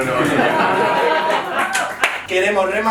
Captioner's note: they laugh